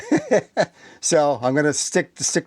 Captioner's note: laughs